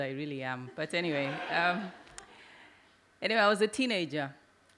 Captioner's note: audience laugh